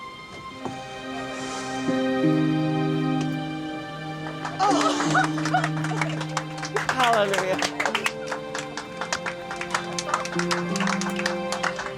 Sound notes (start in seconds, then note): 0.1 calm music; 4.2 passengers clapping; 9.5 calm music